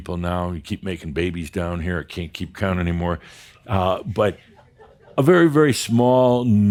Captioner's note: a few giggles